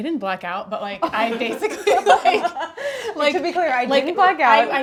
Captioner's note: laughs